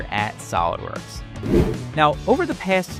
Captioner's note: air whooshing